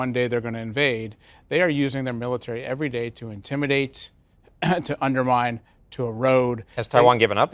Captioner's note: cough